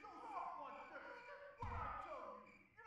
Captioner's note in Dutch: schreeuwend en huilend